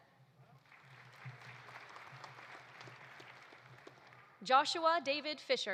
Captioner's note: audience applauding